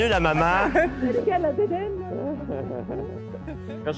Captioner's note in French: rires